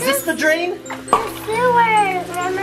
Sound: pops

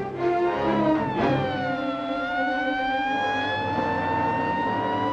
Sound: sirens blaring

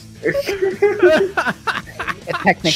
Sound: laughter

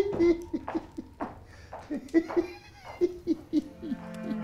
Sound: footsteps thudding; dad laughing; tense ominous music

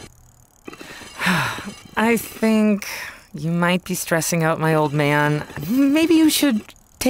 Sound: sighs

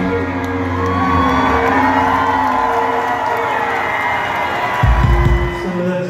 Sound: cheering

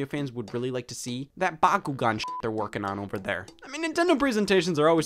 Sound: beep

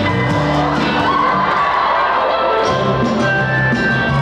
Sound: audience cheering

